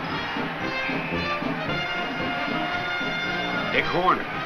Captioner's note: whistle blows